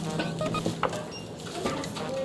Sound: the sound of a cash scanner

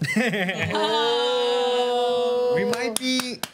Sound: group oohs

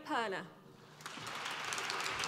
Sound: applause

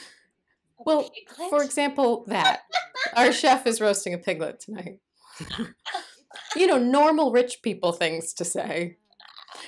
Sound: laughter

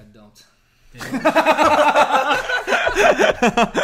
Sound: laughing

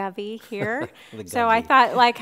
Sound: laughing

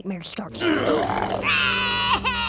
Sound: roaring; crying

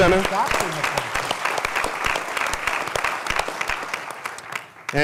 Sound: applause

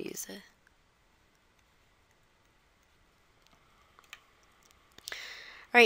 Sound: silence

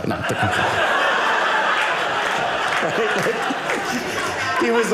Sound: audience laughing

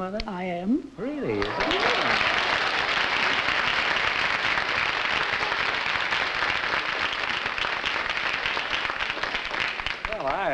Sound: applause

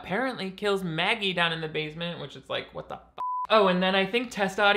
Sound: beep

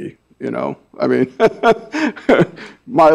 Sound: laughs

